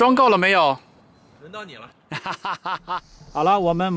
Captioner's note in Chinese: 哈哈哈